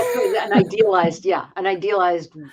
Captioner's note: laugh